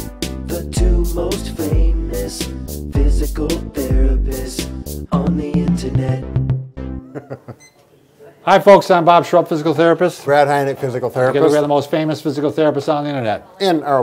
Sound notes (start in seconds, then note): 7.0 laughing